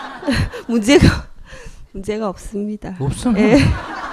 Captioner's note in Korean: 청중 웃음; 질문자 웃음